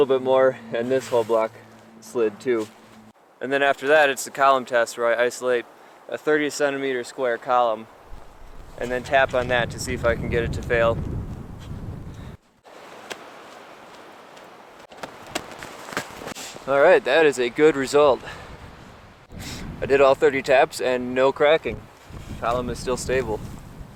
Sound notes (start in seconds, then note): 13.0 tapping